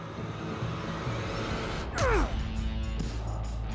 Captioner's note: grunting